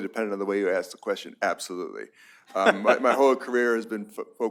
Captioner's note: laughter